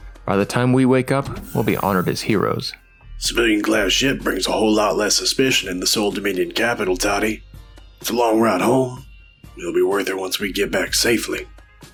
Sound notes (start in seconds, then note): 1.2 door opens